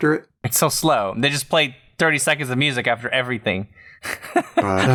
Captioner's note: laughter